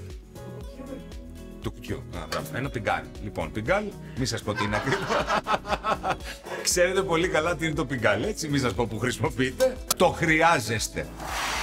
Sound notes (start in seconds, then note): 4.5 laughs